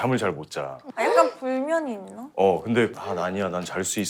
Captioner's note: worried